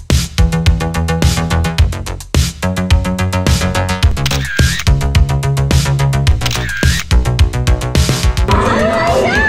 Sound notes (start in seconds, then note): 4.1 camera shutter snapping; 6.3 camera shutter snapping